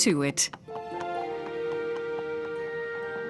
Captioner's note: clicking footsteps